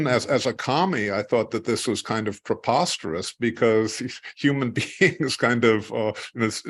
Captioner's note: laugh